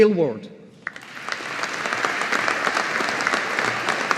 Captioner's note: audience applauding